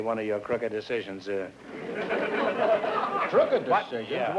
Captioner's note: laughter